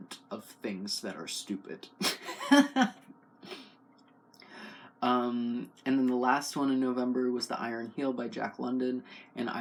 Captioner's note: laugh